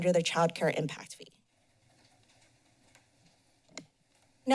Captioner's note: pause